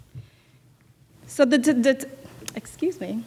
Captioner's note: stuttering